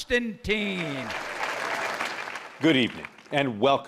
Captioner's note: cheers and applause